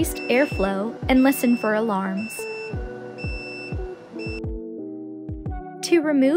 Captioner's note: alarm beeping